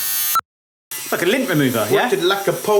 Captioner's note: cut beeps